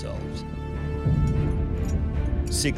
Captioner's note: shackles clanking